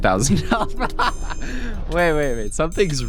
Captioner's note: laughs